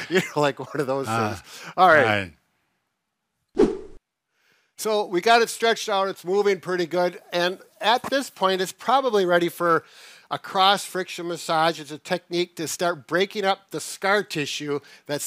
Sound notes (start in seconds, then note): 3.6 air swooshing